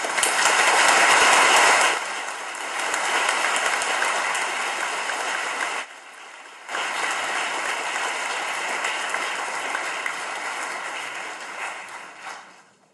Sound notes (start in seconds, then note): 1.4 audience claps